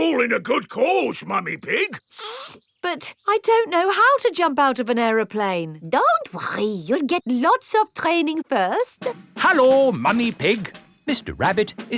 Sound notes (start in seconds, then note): 2.0 sniffs